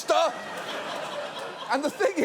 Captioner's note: audience laughs